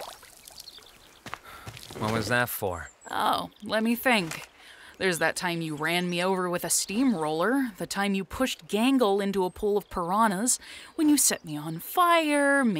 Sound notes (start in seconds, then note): 1.4 sighs